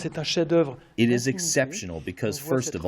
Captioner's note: through translator